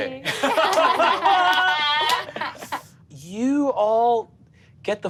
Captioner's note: all laugh